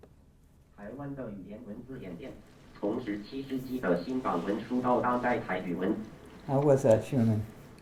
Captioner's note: speaking mandarin